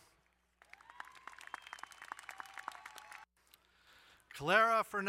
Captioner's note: crowd cheering and applauding